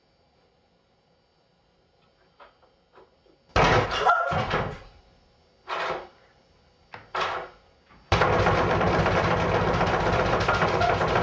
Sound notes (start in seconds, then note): 3.6 banging; 8.2 rattling door